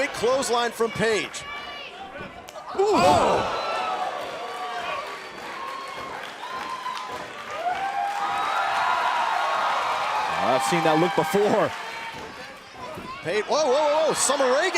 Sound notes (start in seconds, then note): 3.2 crowd cheering